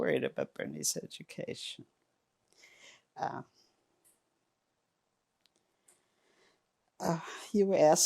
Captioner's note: pauses 6 seconds